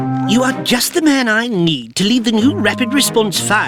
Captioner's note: lowered Voice